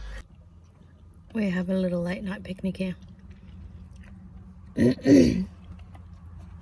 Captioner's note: clears throat